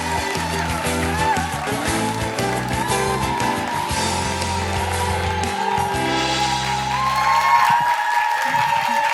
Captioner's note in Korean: 박수와 환호